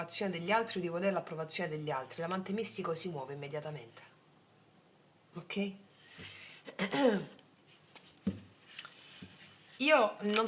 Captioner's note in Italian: schiarire la voce